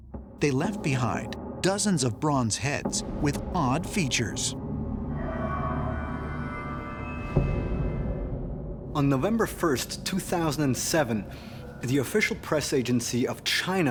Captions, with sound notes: they left behind dozens of bronze heads with odd features. [sharp, eerie whirring] On November 1st, 2007, the official press agency of China